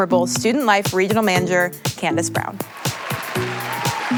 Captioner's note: applause